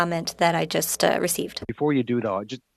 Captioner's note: speaking French